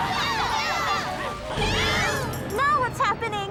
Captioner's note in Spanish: gritan